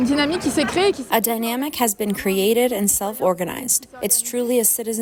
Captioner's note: through translator